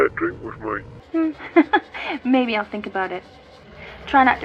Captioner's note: laughs